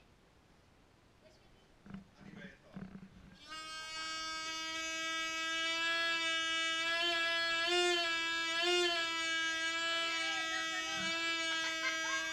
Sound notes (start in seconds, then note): 0.1 foghorn blaring; 5.2 constantly blaring